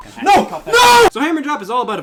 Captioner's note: shouting